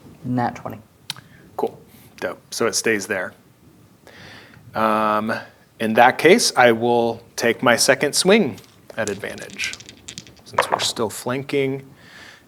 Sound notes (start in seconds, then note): 8.1 dice rattling; 11.6 dice rolling